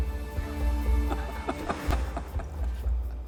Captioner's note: chuckles